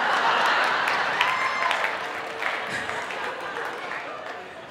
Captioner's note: audience laughing